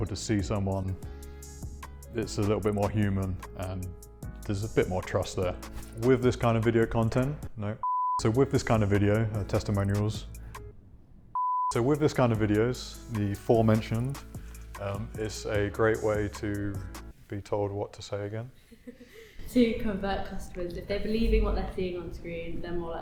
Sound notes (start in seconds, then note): 11.3 beep